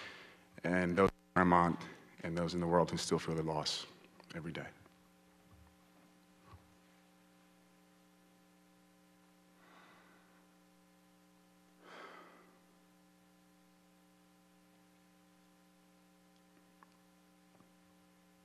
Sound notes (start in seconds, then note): 5.9 moment of silence